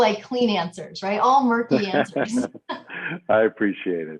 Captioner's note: laughing